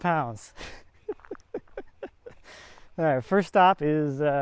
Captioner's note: chuckles